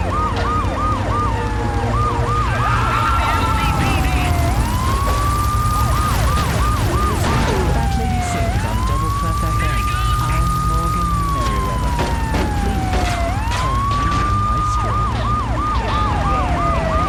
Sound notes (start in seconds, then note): 0.1 tires screeching; 6.6 explosion